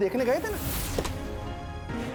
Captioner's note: door opening